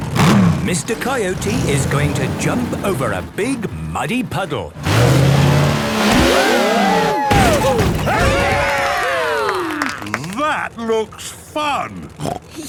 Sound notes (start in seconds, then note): 6.0 crowd; 8.6 applause